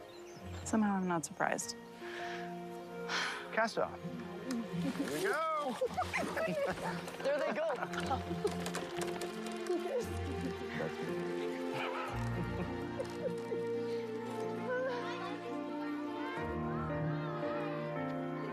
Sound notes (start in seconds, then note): 11.6 laughing